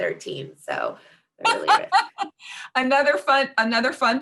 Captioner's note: laughing